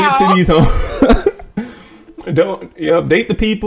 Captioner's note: laughter